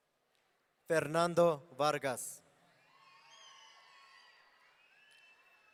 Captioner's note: audience cheering